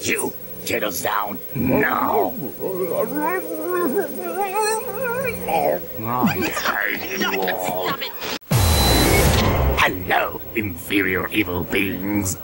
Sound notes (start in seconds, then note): 2.2 more confused bear sounds; 8.3 giggles